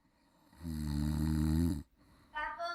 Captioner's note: snoring